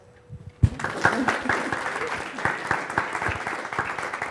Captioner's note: audience applauds